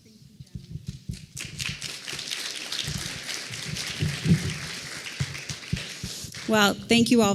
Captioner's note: applause